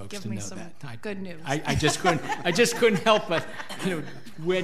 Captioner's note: laughs